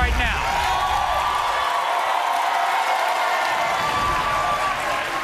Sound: audience cheers

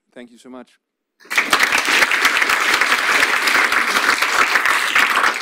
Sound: audience applauds

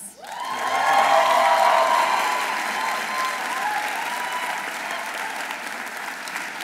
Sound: audience applauding; audience cheering

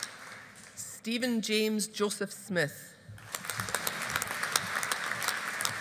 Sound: audience applauding

